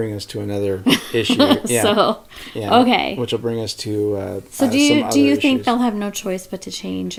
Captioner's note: laughs